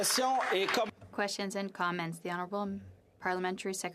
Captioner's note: some Applause